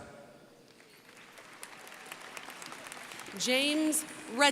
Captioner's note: crowd applauding